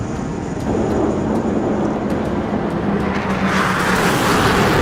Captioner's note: jets blasting